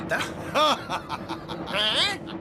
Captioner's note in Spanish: Fog ríe; ríe